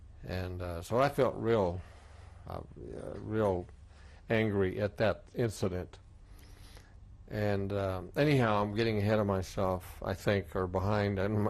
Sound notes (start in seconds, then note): none